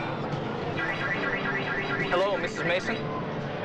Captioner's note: alarm wailing